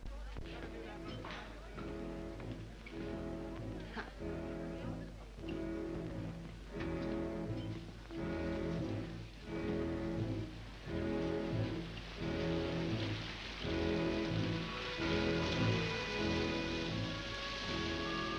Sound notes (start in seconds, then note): 0.4 brooding orchestral music; 12.2 rain splashes